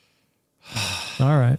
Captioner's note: sighs